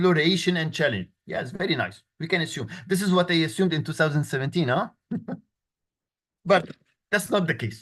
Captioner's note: laughter